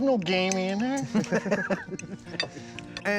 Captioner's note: laughing